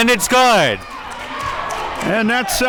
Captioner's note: audience cheering